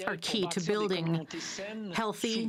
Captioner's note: speaking French